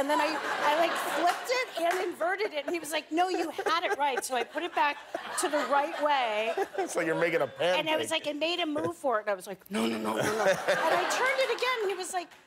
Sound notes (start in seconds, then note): 2.7 laughter